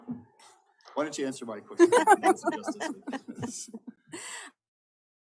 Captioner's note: laughter